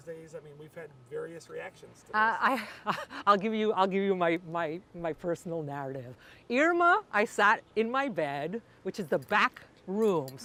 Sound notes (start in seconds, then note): 2.5 laugh